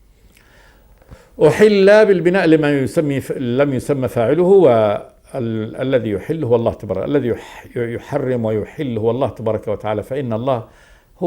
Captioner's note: in Arabic